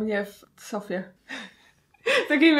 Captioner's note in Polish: śmiech